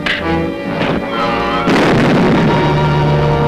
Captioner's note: bomb Sound